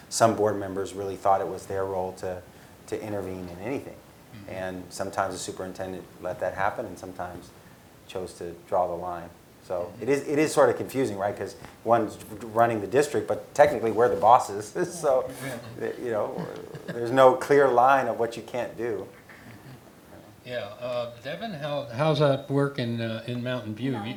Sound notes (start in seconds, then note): 15.0 laugh